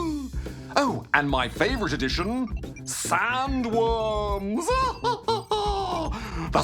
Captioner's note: laughs